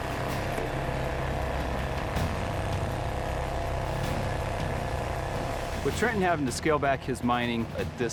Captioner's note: drilling